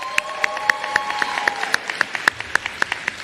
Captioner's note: applause